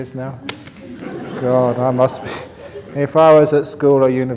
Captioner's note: laughter